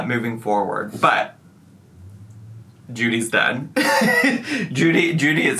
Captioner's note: laughs